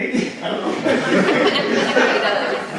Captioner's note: audience laughing